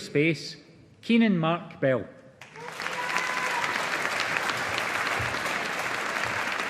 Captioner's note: audience applauding